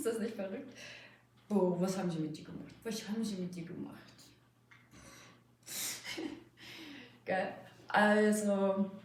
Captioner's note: laughing